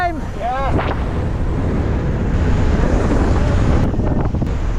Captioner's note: wind whooshing